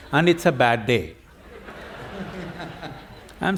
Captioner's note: laughter